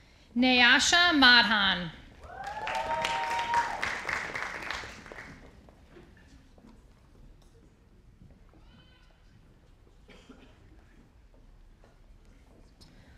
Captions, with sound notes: Nayasha Madhan. (audience applauding)